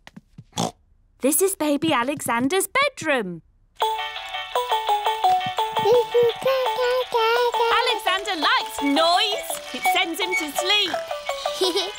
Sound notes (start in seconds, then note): 0.6 oinks; 3.8 mobile playing loud music; 5.8 cooing; 11.3 giggles